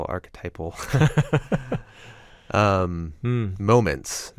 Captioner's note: laughs